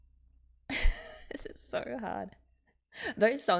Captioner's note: laughs